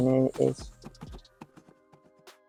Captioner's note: hoof beats